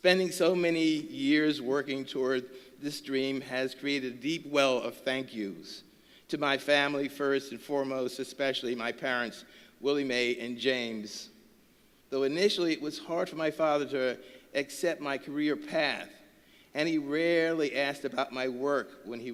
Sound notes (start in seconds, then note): none